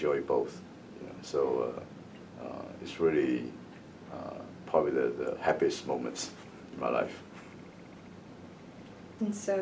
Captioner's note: laughs